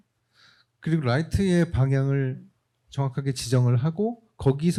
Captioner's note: speaking korean